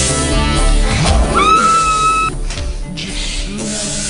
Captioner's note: screaming